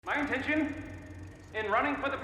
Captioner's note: film reel running